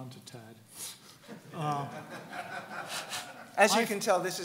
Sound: laughing

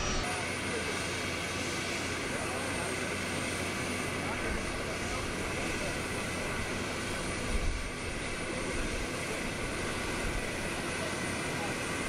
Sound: airplane engine

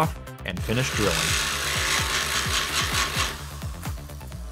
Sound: drilling

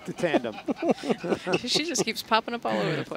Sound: laughing

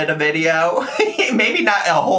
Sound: laughing

